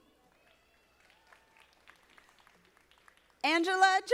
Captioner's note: audience applauding